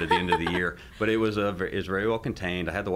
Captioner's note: laughs